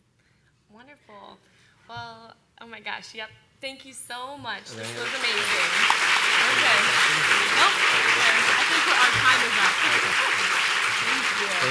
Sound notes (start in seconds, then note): 4.7 applause